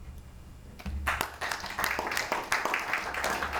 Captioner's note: applause